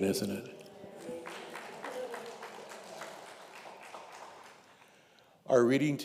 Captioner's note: congregation applauding